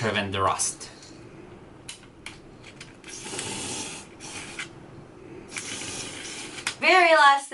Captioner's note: spraying sound